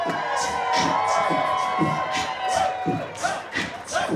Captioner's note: cheering